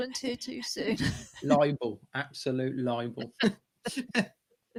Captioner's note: laughter